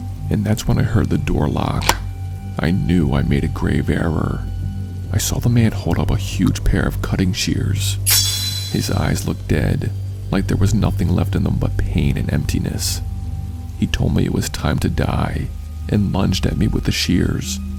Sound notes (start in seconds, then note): 1.8 door locks; 8.1 blade sheath